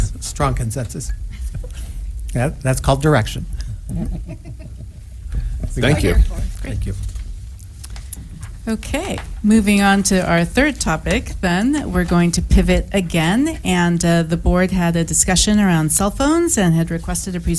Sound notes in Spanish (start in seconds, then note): 3.8 risas